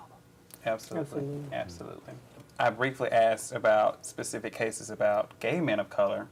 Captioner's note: echoed by others offscreen